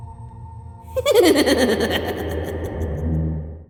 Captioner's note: laughing